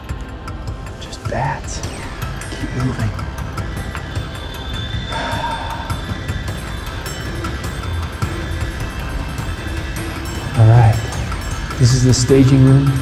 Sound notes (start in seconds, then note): 0.0 dramatic music plays; 5.0 sighs; 7.1 dramatic music plays